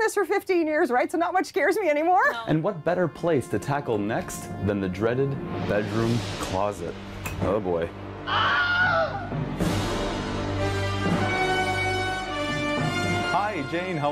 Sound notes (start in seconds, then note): 8.2 man screaming; 12.3 intense music